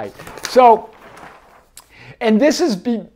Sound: pages flips

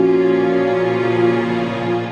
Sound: mouthing

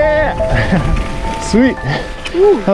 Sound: chuckles

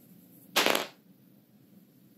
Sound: die clanking

